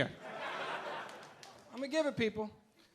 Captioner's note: audience laughing